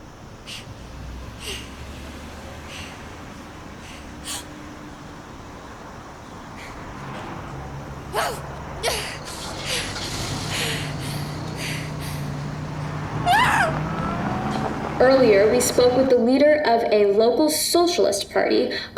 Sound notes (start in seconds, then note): 3.7 nervous gasp; 13.1 frightened cry